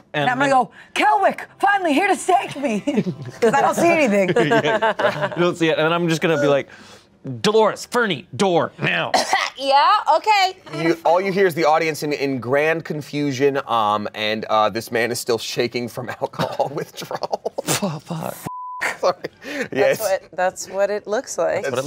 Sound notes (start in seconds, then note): 4.2 everyone laughs; 9.1 coughs; 18.4 beep